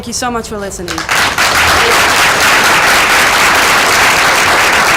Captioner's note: applause